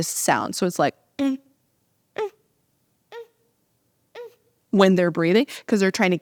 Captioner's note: makes audible breathing sound